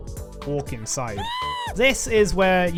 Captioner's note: TF2 Scream